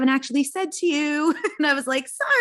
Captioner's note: laughs